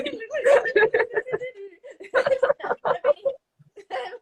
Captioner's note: both laugh